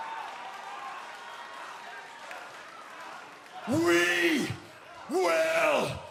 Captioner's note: cheers & applause